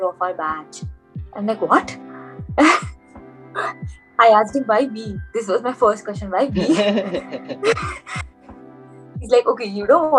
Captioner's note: laughs